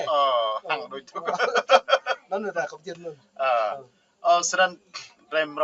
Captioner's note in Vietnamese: Tiếng cười